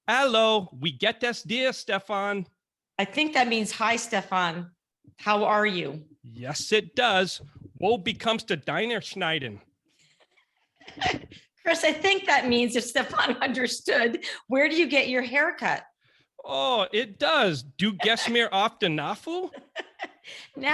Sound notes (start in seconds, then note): 0.7 speaking foreign language; 8.1 speaking foreign language; 17.9 speaking foreign language